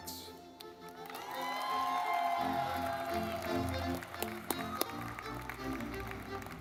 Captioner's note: lively music; audience clapping